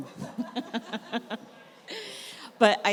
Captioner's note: everyone laughs